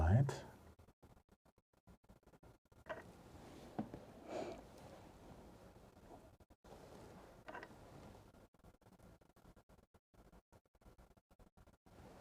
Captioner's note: silence